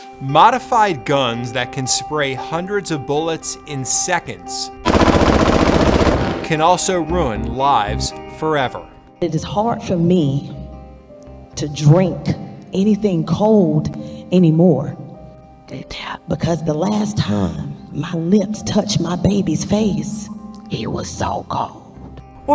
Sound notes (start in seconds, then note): 0.0 dramatic music; 4.8 gun fires